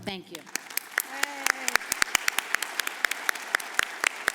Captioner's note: audience applauds